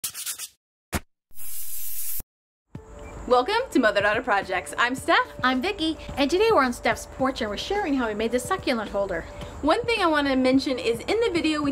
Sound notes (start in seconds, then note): 0.0 logo scratching; 1.0 logo pops; 1.4 logo hissing